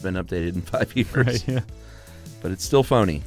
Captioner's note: laughs